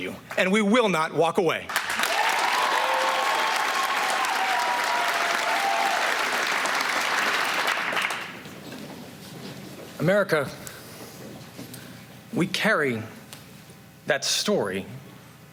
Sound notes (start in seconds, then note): 1.6 applause